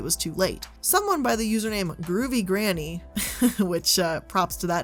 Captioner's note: chuckles